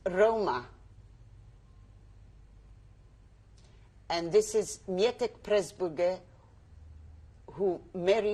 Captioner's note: pauses for 3 seconds